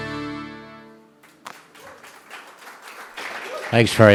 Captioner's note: applause